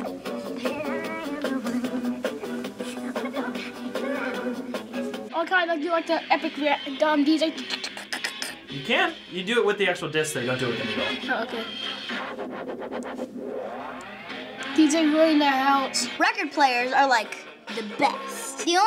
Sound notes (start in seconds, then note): 5.8 imitates record scratching; 12.0 record scratching